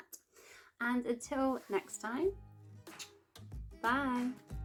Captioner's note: kiss